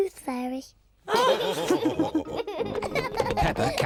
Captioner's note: all laughing